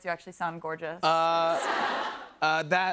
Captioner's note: laughter